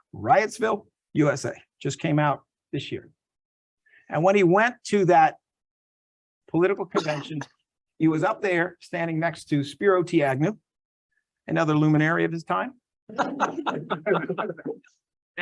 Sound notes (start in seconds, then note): 13.1 laughs